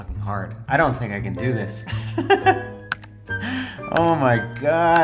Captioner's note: laughing